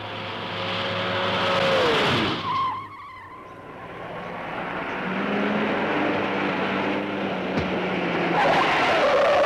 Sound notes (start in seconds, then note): 2.4 tires screeching